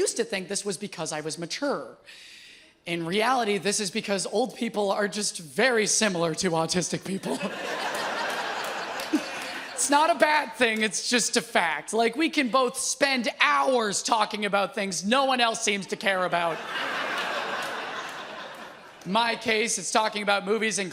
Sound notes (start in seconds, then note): 7.2 audience laughs